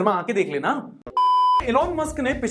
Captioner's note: beep